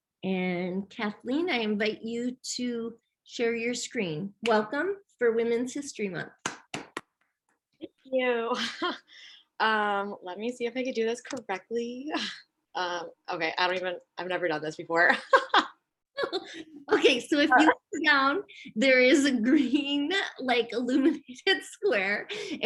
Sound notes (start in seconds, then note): 6.4 clapping; 15.2 laughs